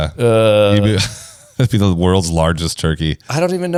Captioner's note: laughs